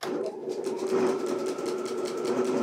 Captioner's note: even whirring